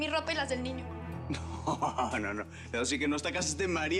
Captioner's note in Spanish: riendo